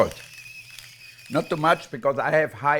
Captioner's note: salt grinder running